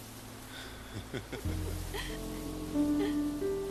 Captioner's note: chaz and madelaine laughing